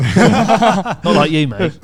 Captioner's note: all laughing loudly